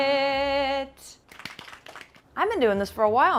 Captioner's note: clapping